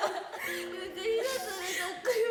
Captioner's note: non-english speech; laughter